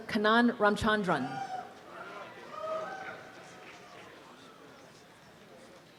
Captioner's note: applause and cheering